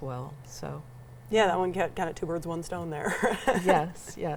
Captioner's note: laughs